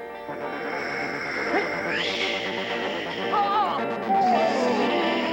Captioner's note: Sleestak wheezing